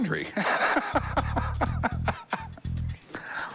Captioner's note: laughs